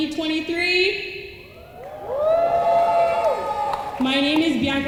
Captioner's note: room cheers